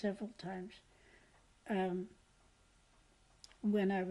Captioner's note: pauses for 3 seconds